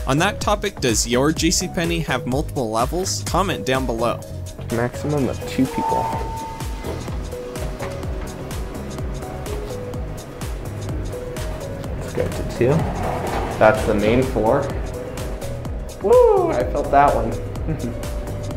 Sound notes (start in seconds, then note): 5.8 elevator Dings; 17.6 chuckles